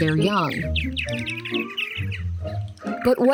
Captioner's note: birds chirping